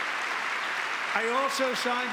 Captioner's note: applause; cheering